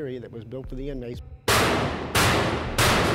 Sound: bangs pan

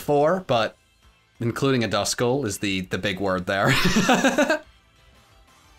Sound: laughs

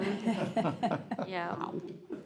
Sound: group laughs

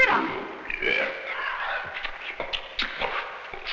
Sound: grunting

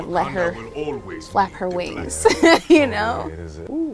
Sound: laughs

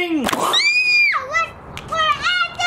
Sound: kid screams

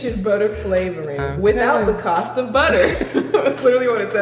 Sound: laughing

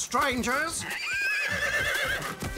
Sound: neighing

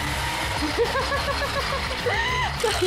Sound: laughs

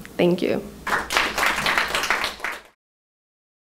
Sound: applause

